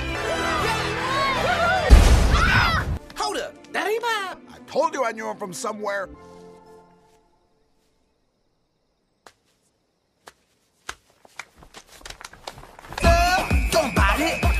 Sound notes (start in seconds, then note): 0.0 cheering; 1.9 boom; 2.2 screams; 9.0 claps